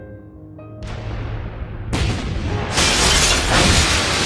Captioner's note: explosions